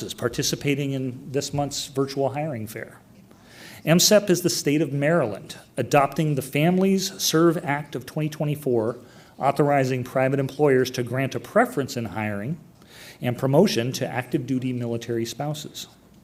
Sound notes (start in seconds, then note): none